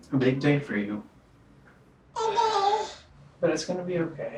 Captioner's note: baby coos